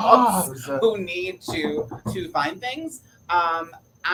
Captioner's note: knocking on door